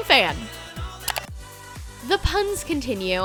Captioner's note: clicking